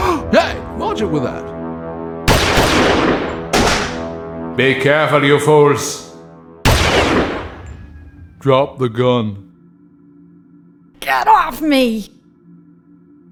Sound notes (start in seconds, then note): 2.2 gunshots; 6.6 gunshot